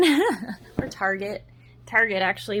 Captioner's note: giggles